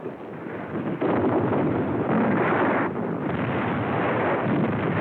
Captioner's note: explosions